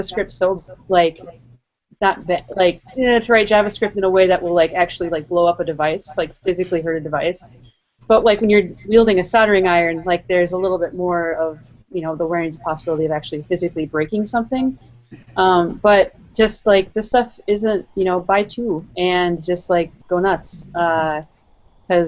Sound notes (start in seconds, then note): 2.7 vocalizes apprehension